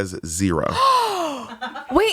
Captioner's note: gasps